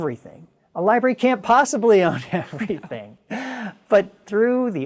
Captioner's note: chuckles